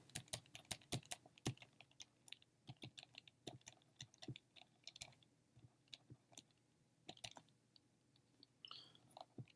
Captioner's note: typing